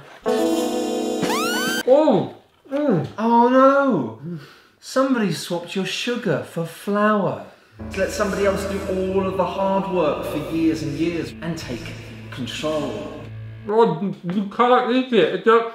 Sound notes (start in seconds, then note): 0.2 dramatic music starts; 1.5 disgusted moans; 7.8 echoing